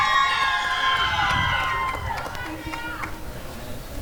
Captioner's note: applause and cheering